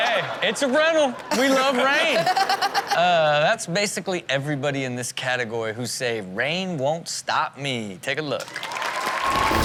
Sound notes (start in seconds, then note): 0.0 audience and Chanel laugh; 1.3 Chanel and audience laugh; 8.5 audience cheers; 8.7 rock music